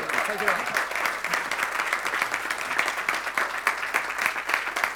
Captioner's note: crowd claps